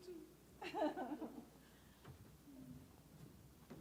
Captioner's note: laughs